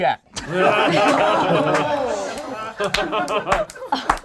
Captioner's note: group laughs